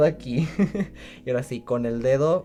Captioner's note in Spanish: Ríe